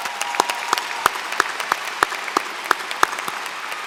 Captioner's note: applause